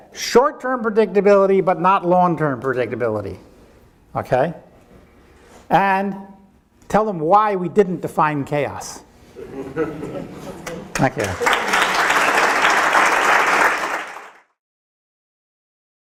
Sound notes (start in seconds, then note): 9.4 audience laughing; 10.6 audience applauding